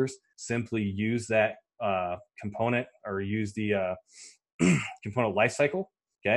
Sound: clears throat

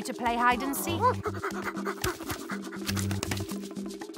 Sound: exhales

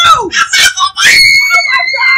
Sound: screaming

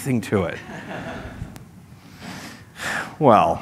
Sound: laughter

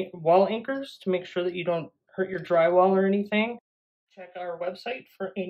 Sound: none

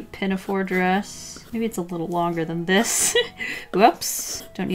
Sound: laughs

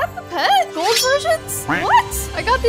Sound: duck quacks

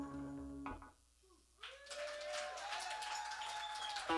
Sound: cheers and applause

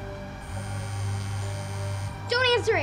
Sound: phone vibrates

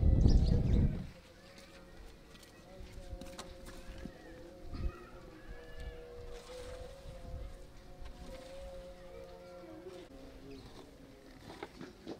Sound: sound of Nature

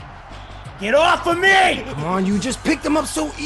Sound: laugh

